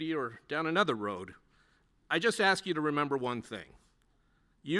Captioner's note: none